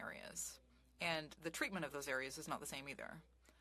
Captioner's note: speaking French